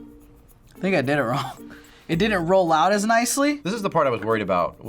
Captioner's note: chuckles